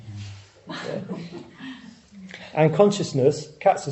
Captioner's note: audience laughs